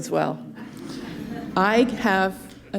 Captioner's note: giggling